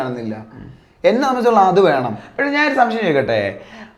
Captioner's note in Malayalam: തൊണ്ട ശരിയാക്കുന്നു